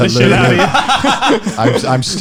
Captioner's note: laughing